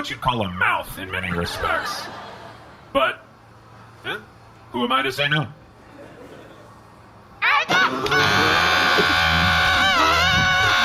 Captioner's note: alien gibberish; horrible electronic, organic mashing sounds